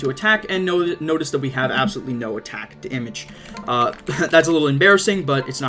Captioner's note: laughs